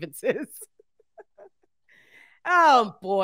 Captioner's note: laughing